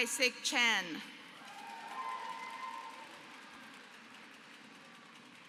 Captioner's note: applause